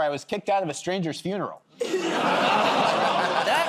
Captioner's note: laughter